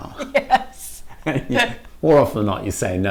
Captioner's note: laughing